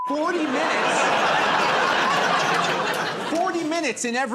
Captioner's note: laughter